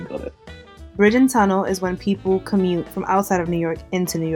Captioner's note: voiceover